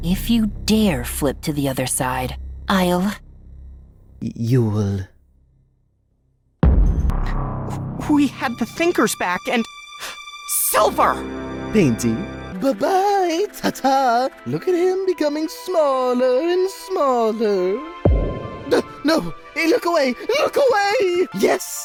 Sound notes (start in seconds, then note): 10.0 gasp